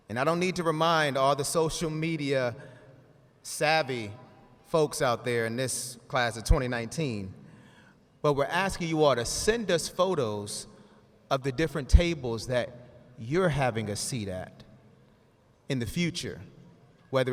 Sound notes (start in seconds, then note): none